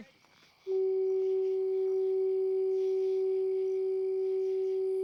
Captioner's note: low-pitched tone sounds